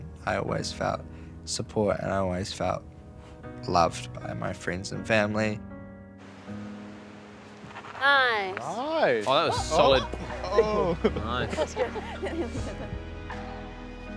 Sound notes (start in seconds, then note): 9.3 chuckles; 13.2 laughs